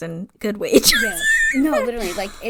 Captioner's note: laughs